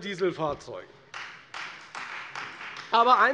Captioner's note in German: Beifall Freie Demokraten